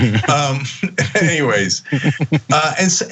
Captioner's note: laugh